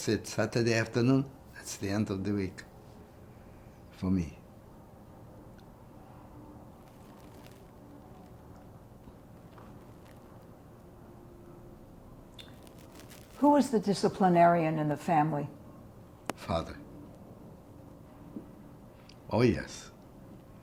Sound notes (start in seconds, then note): 4.7 pauses 8 seconds